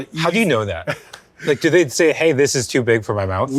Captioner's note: laughing